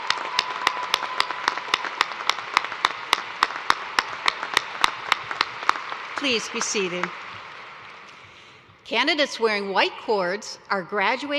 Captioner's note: cheers and applause